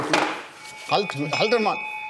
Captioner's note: Glockenläuten